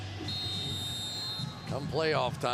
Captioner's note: whistles